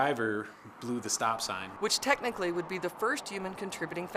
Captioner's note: sounds of vehicles driving on road